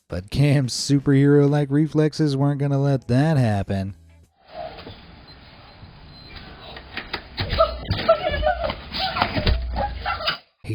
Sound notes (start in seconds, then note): 5.3 door butters beeping; 6.9 door clunking; 7.5 children exclaiming